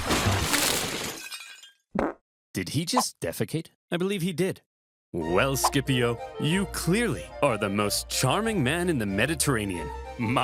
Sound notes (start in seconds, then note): 0.1 body thuds; 1.1 plates clattering